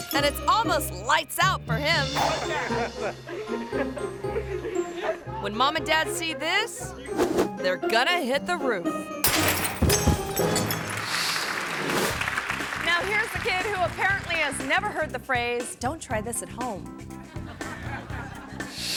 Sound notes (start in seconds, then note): 2.2 people laughing; 9.2 lights shattering; 10.8 audience clapping; 17.2 audience laughing; 18.7 air whooshes